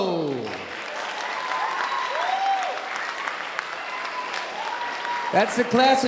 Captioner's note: audience applauding and cheering